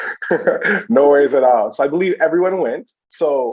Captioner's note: chuckles